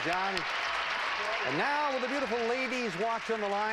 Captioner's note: audience applauding